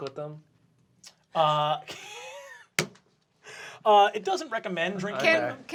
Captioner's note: laughs